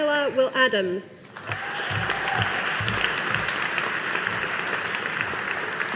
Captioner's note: audience applauding